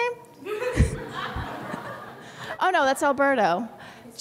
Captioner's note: laughing